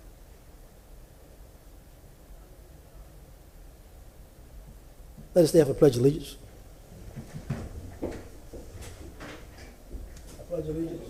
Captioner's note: momentf silenc